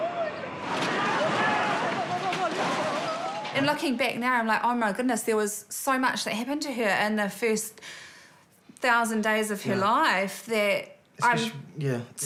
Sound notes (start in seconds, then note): 0.0 people yell